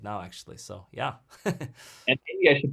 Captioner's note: laughs